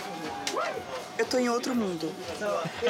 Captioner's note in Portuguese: com voz feminina; riem